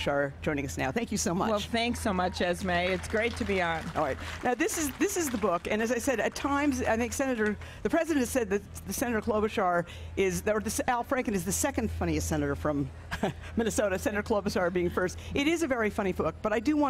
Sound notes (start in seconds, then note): 7.3 applause